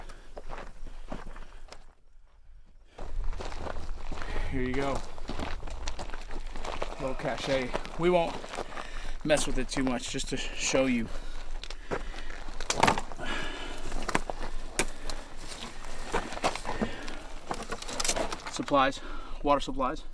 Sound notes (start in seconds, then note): 0.0 footsteps on gravel; 0.0 heavy breathing; 13.0 rocks moving